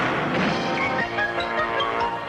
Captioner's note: lively music; door exploding